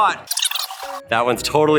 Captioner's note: film rewinding